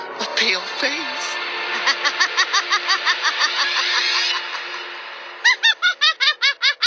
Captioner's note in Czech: Zlý Smích